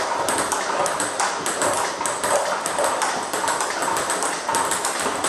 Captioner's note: ball ping pong hitting continues